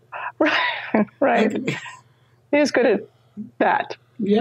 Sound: laughs

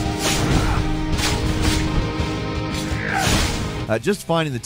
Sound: sword and magic effects crashing

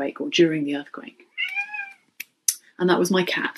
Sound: cat meowing

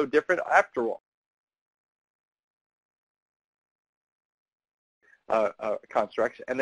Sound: audio out

